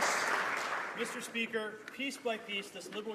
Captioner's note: some Applause